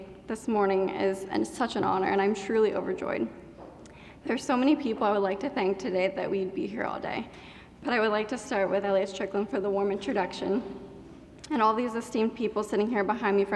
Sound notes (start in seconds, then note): none